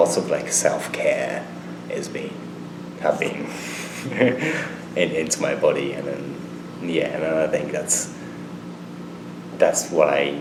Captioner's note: laughs